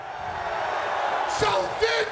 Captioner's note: crowd clamoring